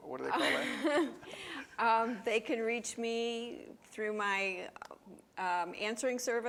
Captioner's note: laughs